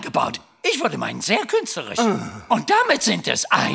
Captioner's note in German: seufzt